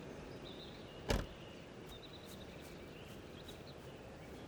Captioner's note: car doors clicking; car door bangs